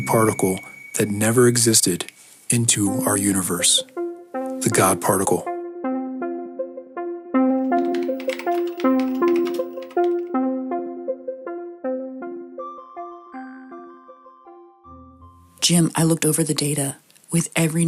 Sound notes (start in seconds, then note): 7.6 keyboard typing